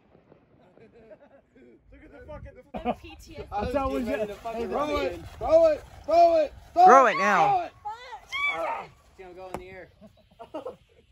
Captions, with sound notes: [Laughter and Chatter] Throw it! Throw it! Throw it! Throw it now! [Screaming]